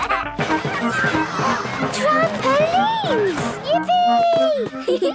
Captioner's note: George giggles; gasps; giggling